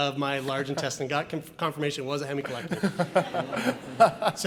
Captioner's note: laughs